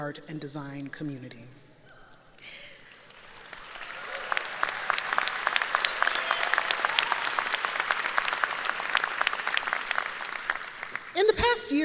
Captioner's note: applause